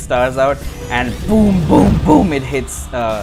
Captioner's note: boom!